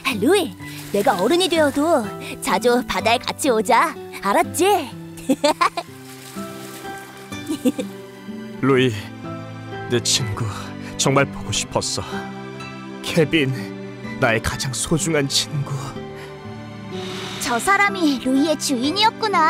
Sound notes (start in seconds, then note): 5.2 giggling; 16.4 sighs